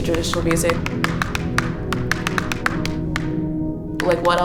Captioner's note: tapping sound